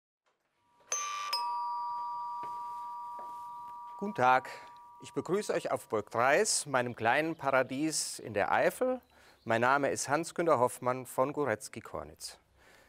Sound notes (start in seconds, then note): 2.2 doorbell